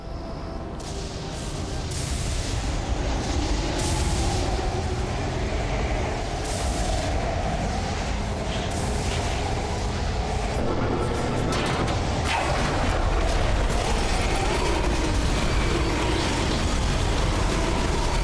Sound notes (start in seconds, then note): 0.3 lightning storm; 2.8 wind whooshing